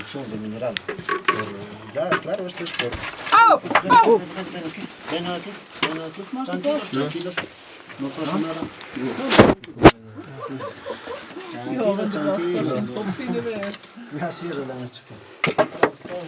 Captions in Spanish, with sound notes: ohh.. tranquilos vengan aquí tranquilos, tranquilos... no pasa nada *risas* la sierra le han hecho caer